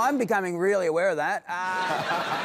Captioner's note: laughter